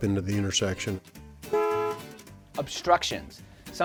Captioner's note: car horn honking